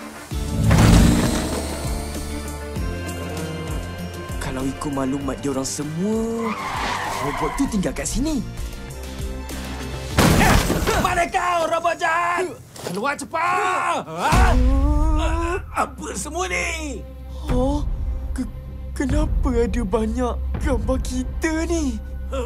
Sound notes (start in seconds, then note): 0.1 action music playing; 14.0 horrified gasps